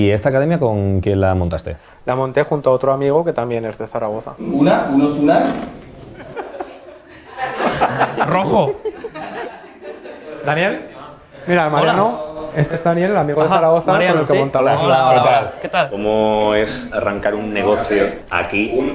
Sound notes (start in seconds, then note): 9.3 laughter